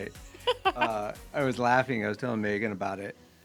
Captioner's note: laughing